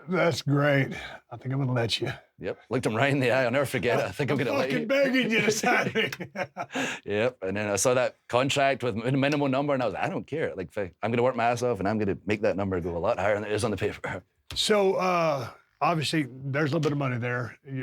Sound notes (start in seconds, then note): 6.8 Steve and Drew laughing